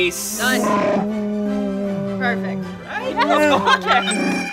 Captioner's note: laughing